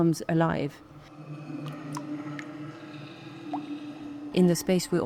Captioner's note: water dripping; pensive music